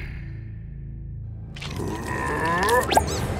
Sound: struggling sounds

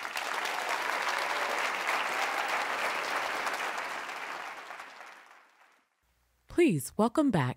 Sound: applause

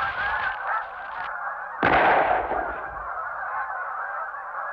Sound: geese sounds; gunshot

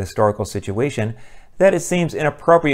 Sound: none

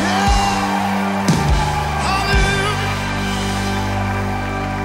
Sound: audience applauding

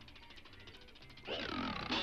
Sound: bike clanks

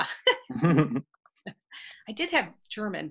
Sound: giggling; laughing

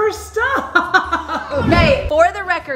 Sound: laughter

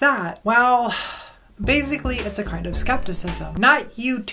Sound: sigh

